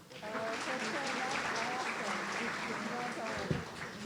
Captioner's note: audience applauding